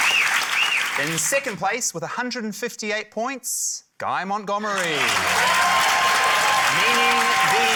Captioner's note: cheering, applause